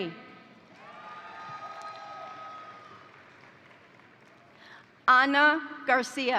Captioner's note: crowd applauding; crowd cheering